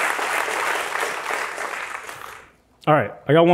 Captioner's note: applause